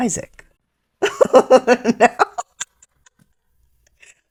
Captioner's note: laughter